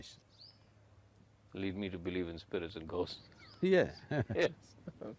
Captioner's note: laughs